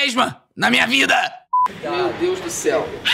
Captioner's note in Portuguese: som de bipe